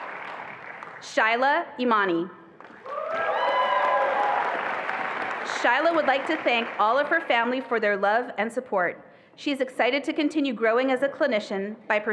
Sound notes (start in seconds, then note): 2.6 attendees applauding and cheering